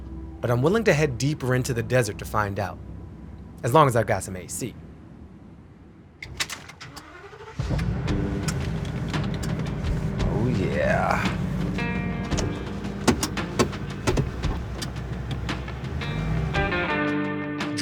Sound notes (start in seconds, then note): 7.1 engine whirring; 12.1 gear shift clicking